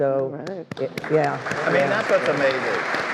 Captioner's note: all applauding